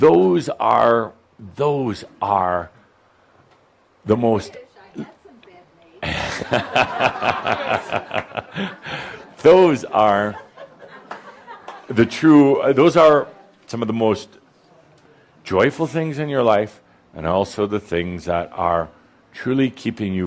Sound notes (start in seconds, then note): 10.2 laughter